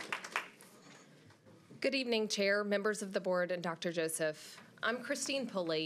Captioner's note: applause